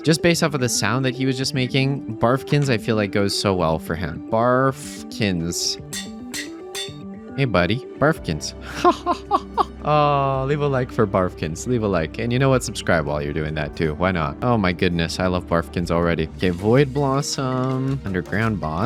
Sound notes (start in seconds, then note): 8.8 laughs